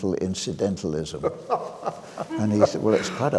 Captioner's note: laughing